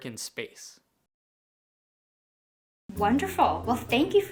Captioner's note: no audio